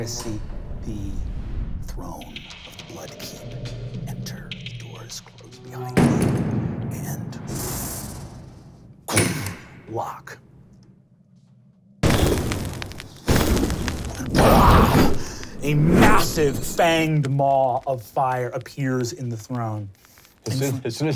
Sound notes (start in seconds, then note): 0.0 whooshing; 5.6 door shutting; 7.9 powerful inhaling; 9.5 sharp click; 12.0 fire crackling to life